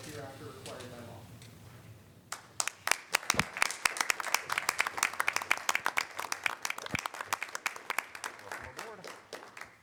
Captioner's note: applause